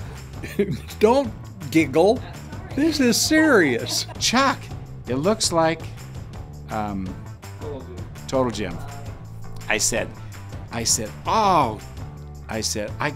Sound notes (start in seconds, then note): 7.8 voiceover